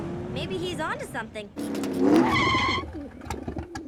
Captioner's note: tires screeching; engine revving; pigeons cooing